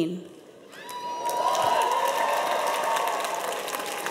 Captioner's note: cheers and applause